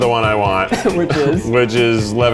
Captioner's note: coughs